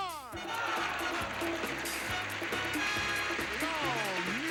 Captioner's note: audience applauding